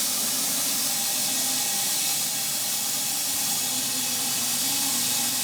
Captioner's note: saw continues buzzing